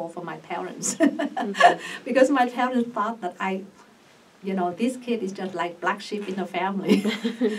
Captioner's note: laughs; laughs